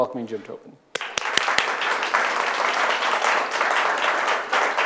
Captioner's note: audience applauding